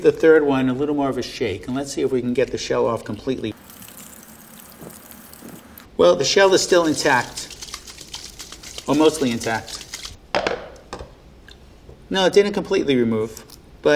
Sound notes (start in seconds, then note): 3.5 water swishing; 4.3 egg crackling